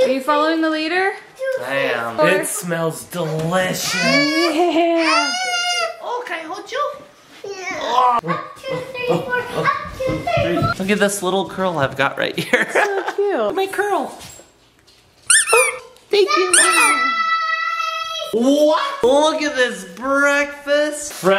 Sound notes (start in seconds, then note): 5.4 crying; 12.5 laughing; 15.2 squeaking